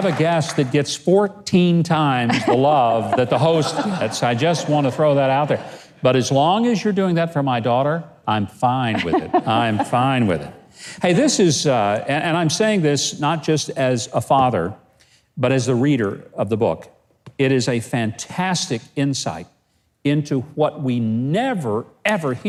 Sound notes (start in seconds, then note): 8.9 laughing